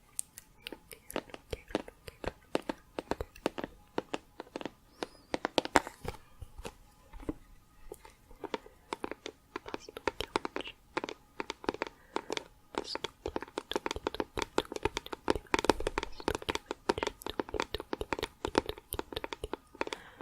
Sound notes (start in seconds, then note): 5.0 tapping on plastic